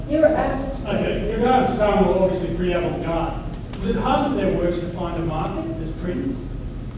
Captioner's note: voiceover